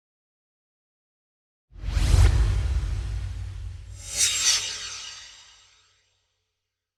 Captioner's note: swoosh